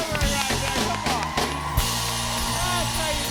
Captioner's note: cheers and applause